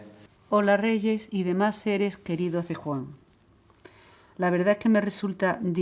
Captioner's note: Mum voice, reading the letter from Jesús